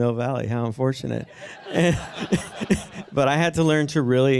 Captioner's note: chuckling